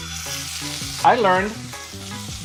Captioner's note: oil sizzling